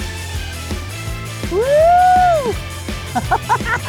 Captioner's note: cheering; laughing